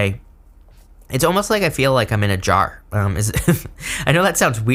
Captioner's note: chuckles